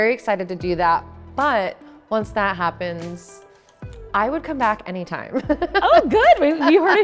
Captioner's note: laughs